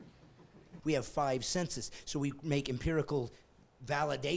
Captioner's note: laughing